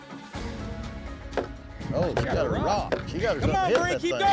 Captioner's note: rock thudding; cowboys shout encouragement